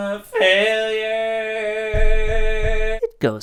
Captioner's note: banging Head on Floor